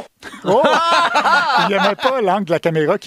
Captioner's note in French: rires